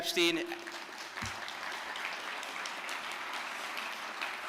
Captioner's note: audience applause